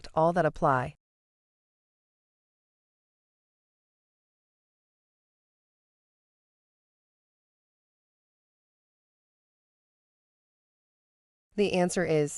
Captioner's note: no audio